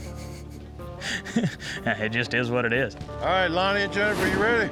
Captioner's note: chuckles